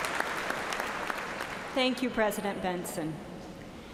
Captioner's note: applause